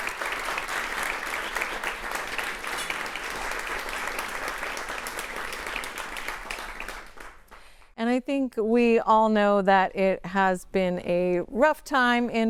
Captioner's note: applause